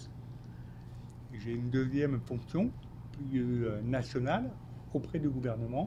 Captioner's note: speaking French